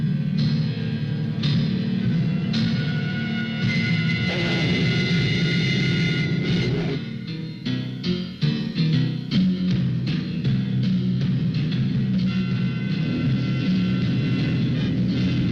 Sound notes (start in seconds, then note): 1.8 dramatic music; 4.2 wolf growling